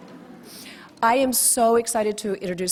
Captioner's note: audience laughs